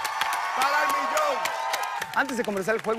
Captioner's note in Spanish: aplausos